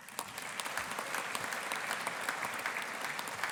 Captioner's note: audience applauding